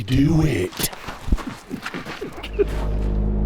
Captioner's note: laughing